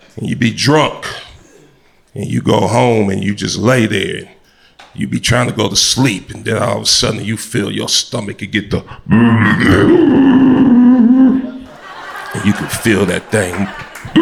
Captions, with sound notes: And you be drunk and you go home and you just lay there. You'd be trying to go to sleep. And then all of a sudden, you feel your stomach could get the, (groans) You could feel that thing,